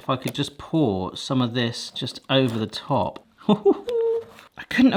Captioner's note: laughs